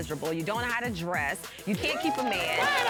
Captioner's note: audience cheering